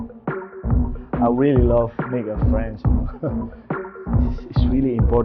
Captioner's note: upbeat techno music; laughs